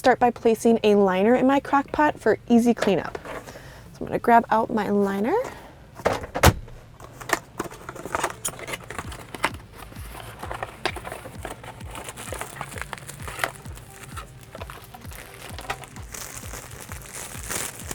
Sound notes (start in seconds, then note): 7.6 box clattering; 12.7 liner crinkling